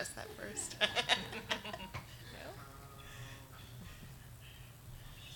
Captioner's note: audience laughs